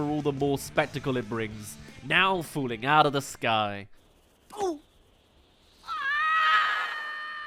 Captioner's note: falling, screaming